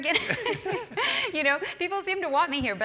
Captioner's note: laugh